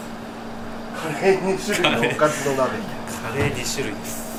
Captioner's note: laughs